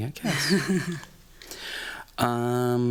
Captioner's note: chuckling